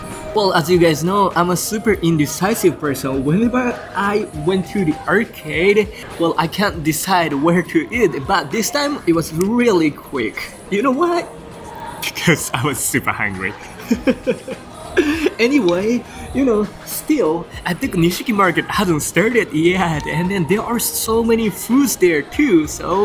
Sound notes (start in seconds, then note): 13.4 laughs